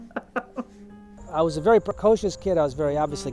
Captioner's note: laughs